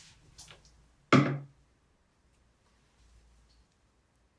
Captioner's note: bottle thudding